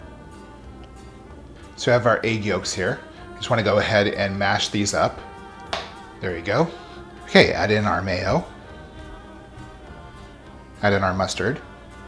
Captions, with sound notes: So I have our egg yolks here. I just wanna go ahead and mash these up. *snap* There we go. Okay, add in our mayo, add in our mustard,